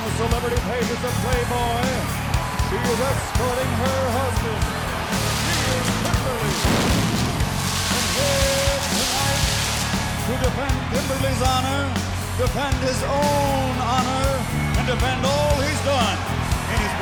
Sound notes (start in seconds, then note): 4.9 pyro explodes